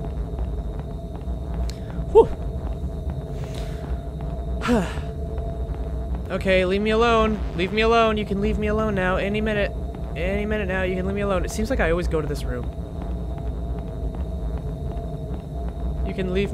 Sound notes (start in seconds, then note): 1.9 exhales